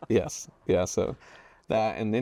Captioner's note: laughs